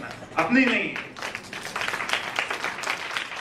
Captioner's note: claps